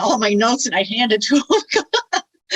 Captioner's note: laughs